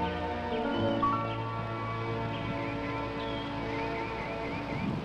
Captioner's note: birds chirping